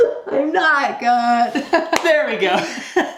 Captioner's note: laughs